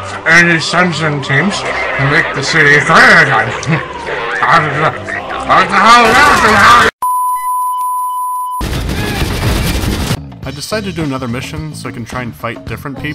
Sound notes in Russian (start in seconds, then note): 5.7 стрельба и крики; 8.6 всё ещё продолжительный огонь